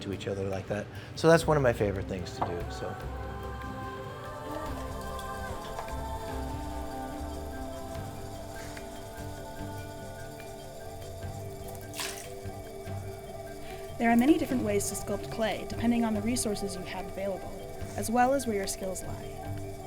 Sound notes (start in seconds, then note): 6.7 calm music; 12.9 water splashing